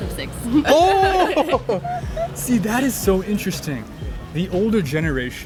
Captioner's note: laughing